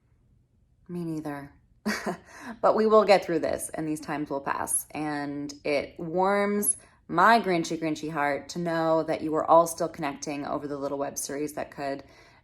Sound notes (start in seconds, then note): 1.5 laughs